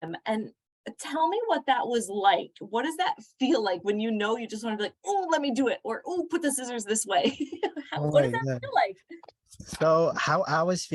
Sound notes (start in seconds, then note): 7.2 laughter